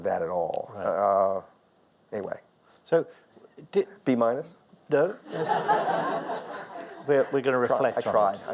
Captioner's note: audience laughs